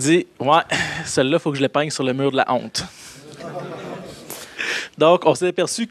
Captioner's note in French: rires